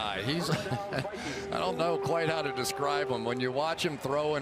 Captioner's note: laughs